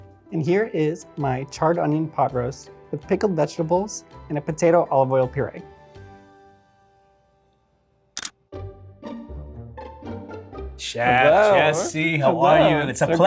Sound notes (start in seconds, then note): 8.2 camera shutter clicks; 9.1 whimsical music